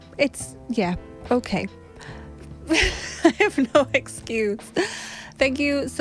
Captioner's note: laughs